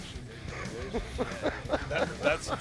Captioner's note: laughing